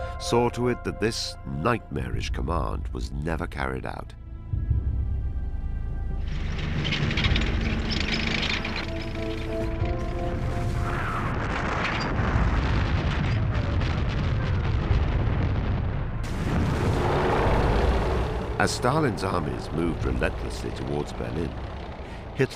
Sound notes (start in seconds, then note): 6.2 tank engine rattling; 10.9 heavy artillery blasting; 16.5 tank engine rumbles